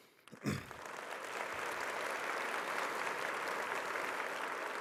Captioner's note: audience applauding